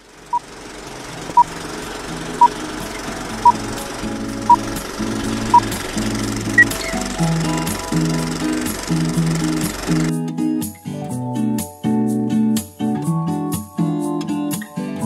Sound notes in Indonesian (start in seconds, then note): 6.8 suara proyektor film tua